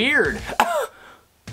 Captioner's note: cough